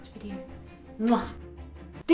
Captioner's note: kiss